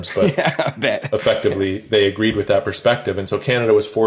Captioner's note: laughs